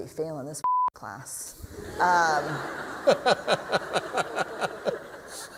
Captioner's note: laughter